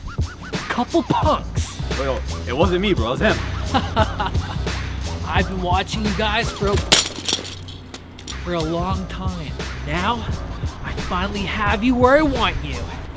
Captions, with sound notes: A couple punks. - Yo, it wasn't me, bro. It was him. - (laughs) I've been watching you guys for a (bike falling) for a long time. Now, I finally have you where I want you.